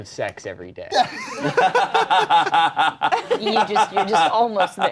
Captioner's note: laughing